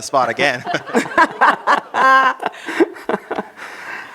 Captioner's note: laughter